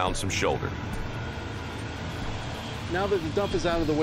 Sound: truck rumbling

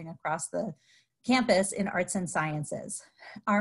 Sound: none

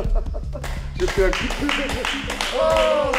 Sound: laughs

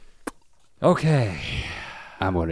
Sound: sighs

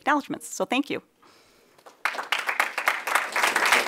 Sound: applause

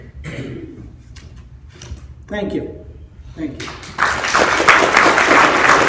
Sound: applause

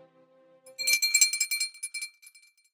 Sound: bell ringing

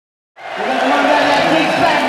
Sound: audience cheering

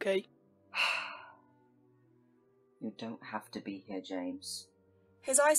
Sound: Remus sighs

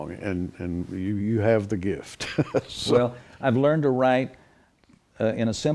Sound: chuckles

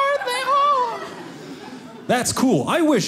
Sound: audience laughing

